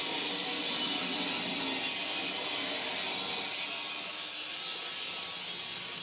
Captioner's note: saw continues whirring